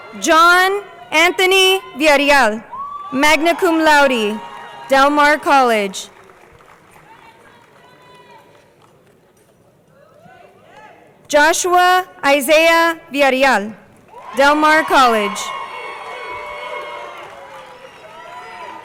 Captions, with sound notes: John Anthony Villareal, magna cum laude, Delmar College. (crowd applauding) Joshua Isaiah Villareal, Delmar College. (crowd cheering)